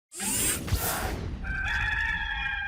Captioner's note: logo whooshing; rooster crowing